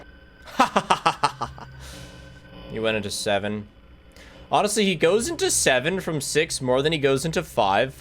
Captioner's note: laughs